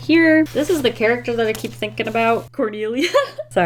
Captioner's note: giggles